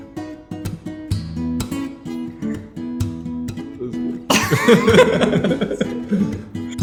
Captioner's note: laughter